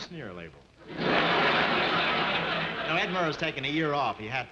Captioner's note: audience laughing